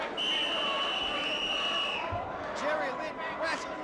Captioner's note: whistle blowing